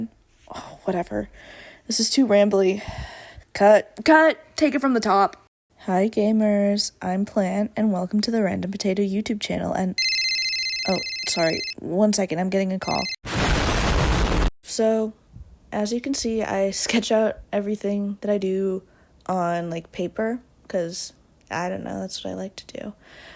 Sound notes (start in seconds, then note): 0.3 sigh; 10.0 phone ringing; 13.2 explosion